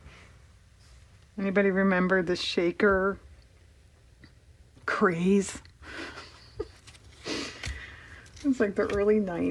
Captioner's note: laughs